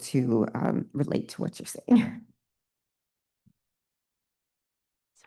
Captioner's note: chuckles